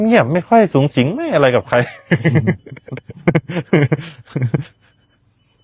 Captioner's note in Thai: เสียงหัวเราะ